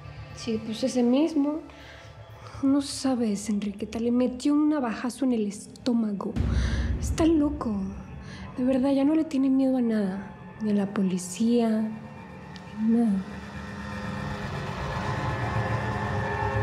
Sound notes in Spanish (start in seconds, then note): none